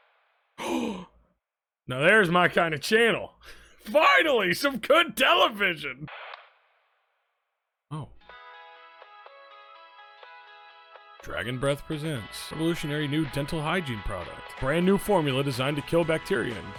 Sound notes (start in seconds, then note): 0.6 gasps; 8.4 gentle music